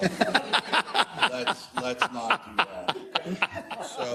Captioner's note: laugh